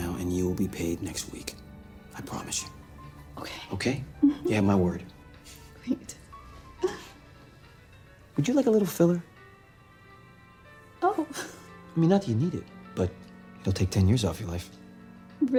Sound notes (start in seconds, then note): 10.5 chuckles